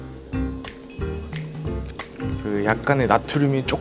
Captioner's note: slurp